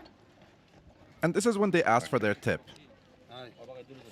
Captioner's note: people chattering